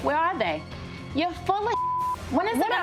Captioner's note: beep